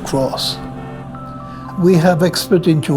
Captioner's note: horn honking